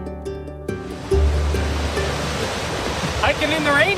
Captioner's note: water rushes